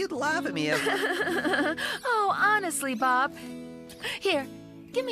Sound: chuckling

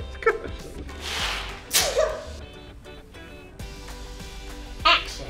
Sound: laughing; sneezing

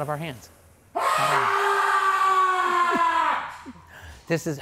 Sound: yelling

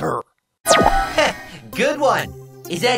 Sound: chuckles

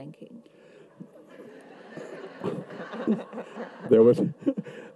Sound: audience laughs

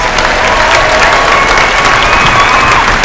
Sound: applause

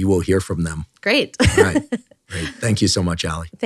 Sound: laughs

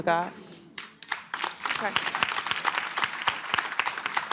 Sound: applause

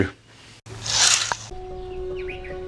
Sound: curtains rattle; birds chirp

